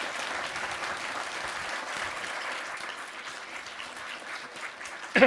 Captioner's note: applause